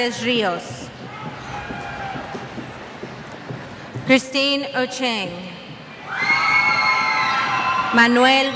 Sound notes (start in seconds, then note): 1.1 cheers